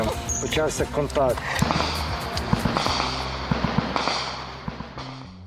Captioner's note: shooting sounds